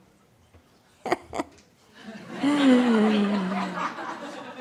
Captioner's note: laughter